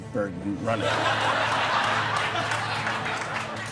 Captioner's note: laughter